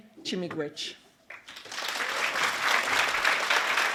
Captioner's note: applause